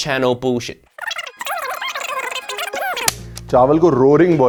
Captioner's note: film forwarding noises